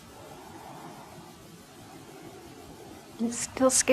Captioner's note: breathes deeply